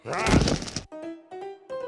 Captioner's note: thud